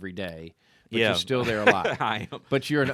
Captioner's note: laughs